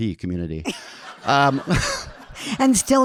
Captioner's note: audience laughing